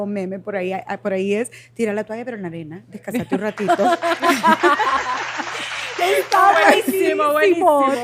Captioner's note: Aplausos